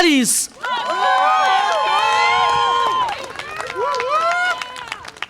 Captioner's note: audience applause and cheer